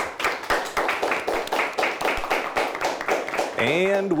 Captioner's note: crowd applauds